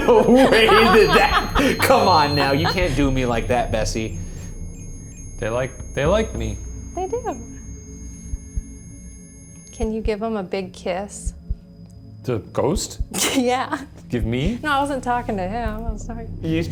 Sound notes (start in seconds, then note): 8.1 REM-Pod beeping; 9.0 eerie music